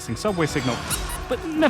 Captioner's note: comedy squeak!